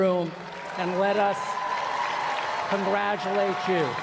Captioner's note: applause